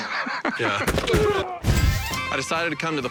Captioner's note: laughs; football players grunting